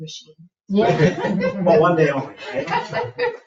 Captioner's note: people laughing